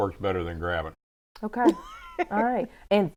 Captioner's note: laughing